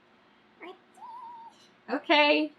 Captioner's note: squeals